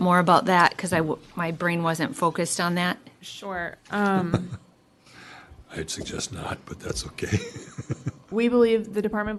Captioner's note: laughter